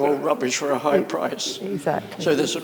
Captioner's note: laughs